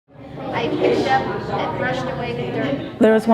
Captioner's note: classroom noise